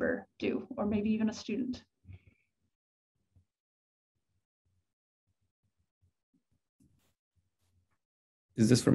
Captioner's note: silence